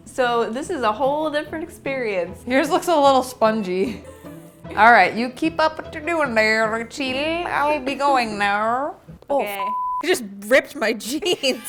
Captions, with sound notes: So this is a whole different experience. - Yours looks a little spongy. All right. You keep up what your doing there, Rachel. I'll be going now. - Okay. - Oh, (beep). I just ripped my jeans.